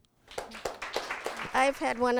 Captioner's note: audience clapping